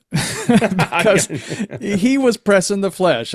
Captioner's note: both laughing